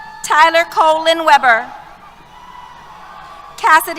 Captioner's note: cheers